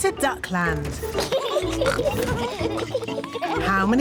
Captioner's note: both giggling